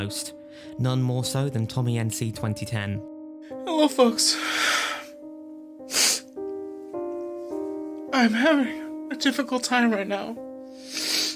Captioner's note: exhales and sobs